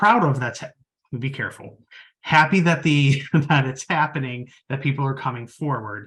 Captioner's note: chuckles